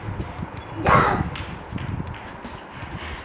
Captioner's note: victory shout